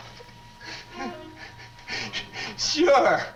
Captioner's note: Jerry sobs